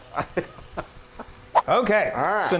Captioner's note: laughing